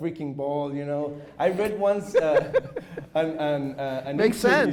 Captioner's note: chuckles